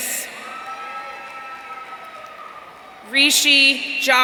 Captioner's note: audience cheering